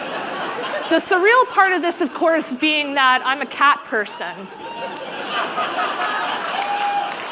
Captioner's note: laughter